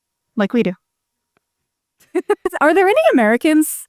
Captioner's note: laughs